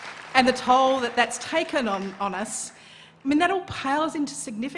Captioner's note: applause